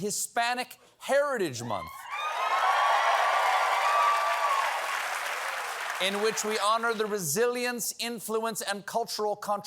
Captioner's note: applause